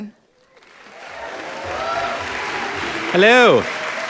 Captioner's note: audience applauding